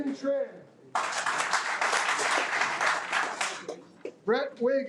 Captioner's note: audience applauding